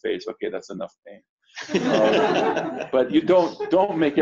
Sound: laughter

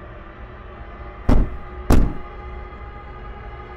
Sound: knock, knock

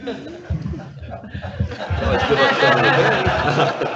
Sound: audience laughs

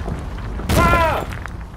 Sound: screams

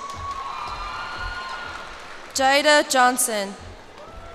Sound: cheers and applause

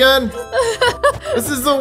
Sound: laughs

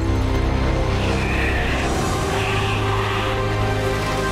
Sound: dramatic music continues; wind howls; dramatic music continues

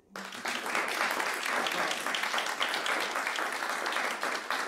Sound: audience applauding

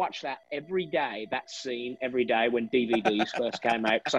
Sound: laugh

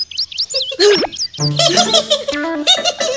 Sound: monkeys laugh

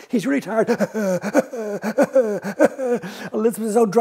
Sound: sound of dragon panting

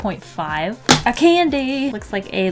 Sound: smack

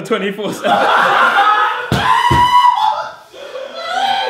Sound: audience laughs

